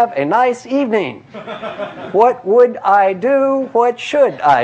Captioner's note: laugh